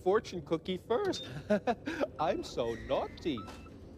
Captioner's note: chuckles